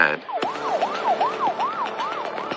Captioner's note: siren wailing